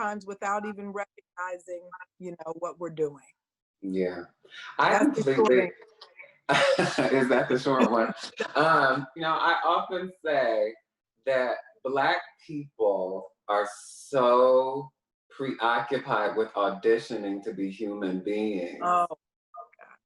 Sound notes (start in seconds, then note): 6.4 laughs